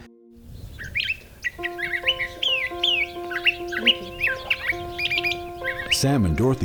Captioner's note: bird chirping